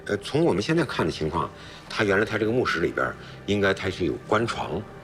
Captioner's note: speaking in foreign language